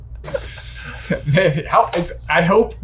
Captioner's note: laughing